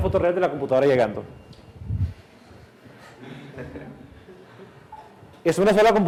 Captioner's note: class laughs